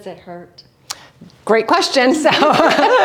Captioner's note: laughs